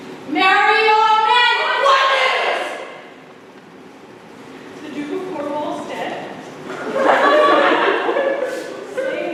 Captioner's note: laughter